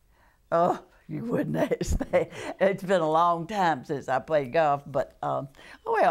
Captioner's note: laughter